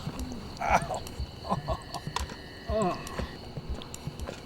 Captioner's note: grunts